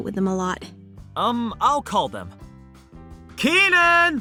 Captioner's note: calling upstairs